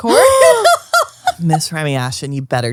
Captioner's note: laughs; gasps